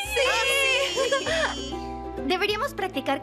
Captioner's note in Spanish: gritos y aplausos